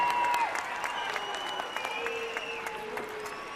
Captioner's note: crowd cheering